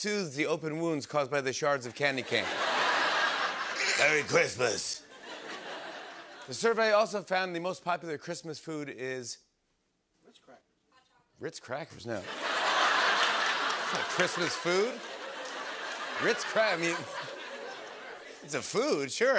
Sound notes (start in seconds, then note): 3.4 gravelly voice; 5.9 normal voice; 12.2 laughter